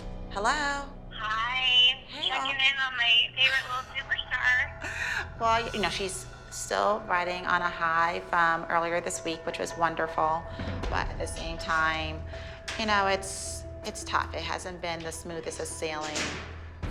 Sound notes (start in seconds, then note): 3.4 laughs